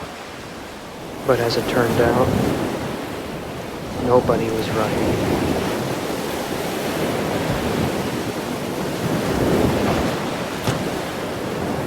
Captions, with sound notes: But as it turned out, nobody was right. (wave rumbling)